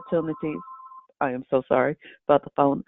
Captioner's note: phone ringing